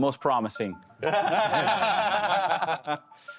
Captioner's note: laughing